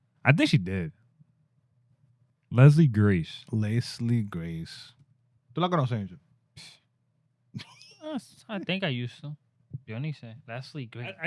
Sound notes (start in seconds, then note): 5.5 speaking In Foreign Language